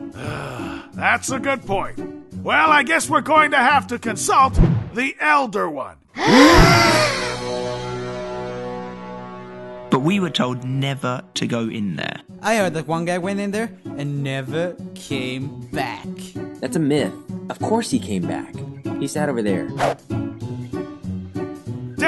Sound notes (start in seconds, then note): 0.1 sigh; 6.2 gasp